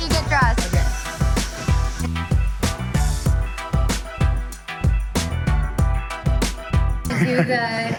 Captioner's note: laughing